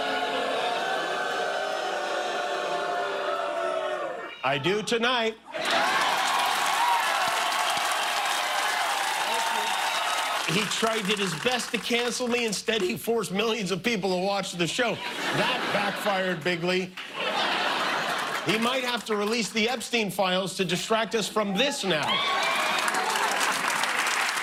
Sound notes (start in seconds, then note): 5.5 audience booing; 7.5 cheers and applause; 19.6 laughter